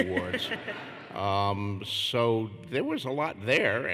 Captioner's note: laughter